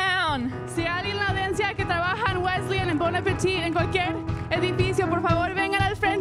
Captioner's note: speaking in Spanish